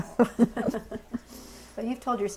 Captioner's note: laughter